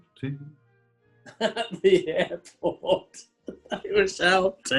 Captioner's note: laughing